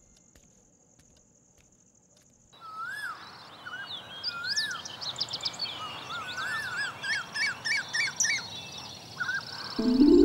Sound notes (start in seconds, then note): 0.0 night Ambient Sound; 3.8 morning Ambient Sound